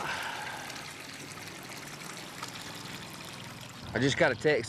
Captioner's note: water running